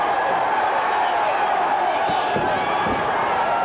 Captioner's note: crowd cheers